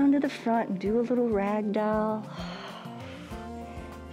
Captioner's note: exhales